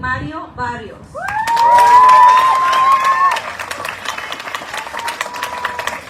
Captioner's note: audience cheering, applauding